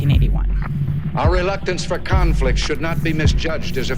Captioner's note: soundbite of archived recording